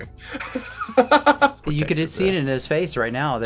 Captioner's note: laughing